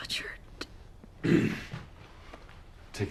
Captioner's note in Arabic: ينظف الحلق